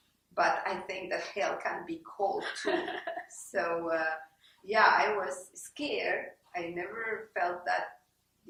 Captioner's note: laugh